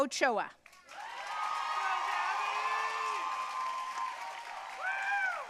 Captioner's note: audience cheering and applauding